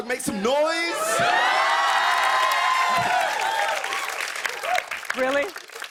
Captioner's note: cheers and applause